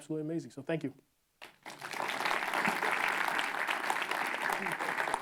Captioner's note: applause